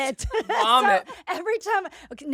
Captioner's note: all laughing